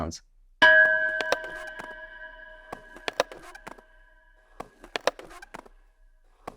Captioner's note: chime; sporadic drumming